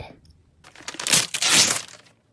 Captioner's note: ripping